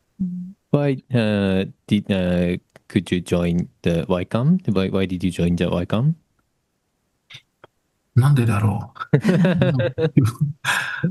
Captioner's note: laughs